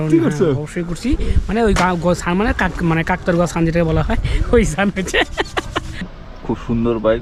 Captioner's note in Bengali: সশব্দ হাসি